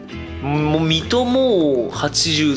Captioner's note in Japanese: none